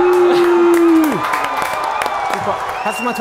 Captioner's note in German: Jubel